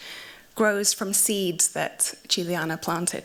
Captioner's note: none